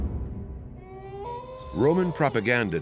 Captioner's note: wolf howls